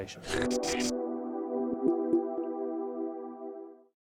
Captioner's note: gentle music; graphics whooshing